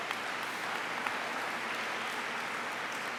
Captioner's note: applause